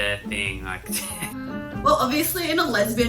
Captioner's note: chuckles